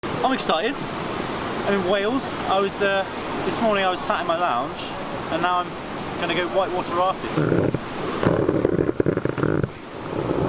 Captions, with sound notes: - I'm excited. I'm in Wales. This morning I was sat in my lounge and now I'm gonna go whitewater rafting. (raft creaks)